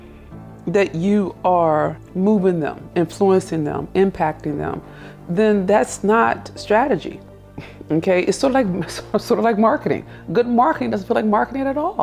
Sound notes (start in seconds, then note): 8.4 chuckles